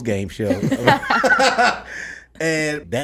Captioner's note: laughs